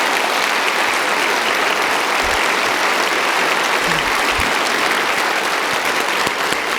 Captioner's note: audience applauding